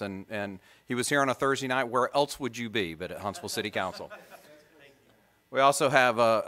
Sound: laughter

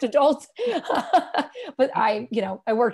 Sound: laughter

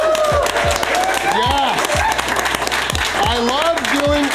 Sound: crowd clapping and cheering

